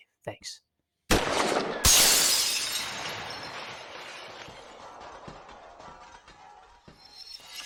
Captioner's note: gun fire banging; sphere shattering